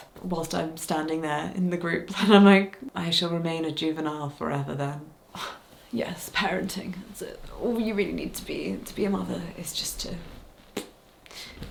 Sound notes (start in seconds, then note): 5.7 scoffs